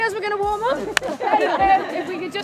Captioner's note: laughing